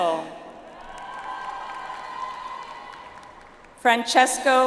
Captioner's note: audience applauds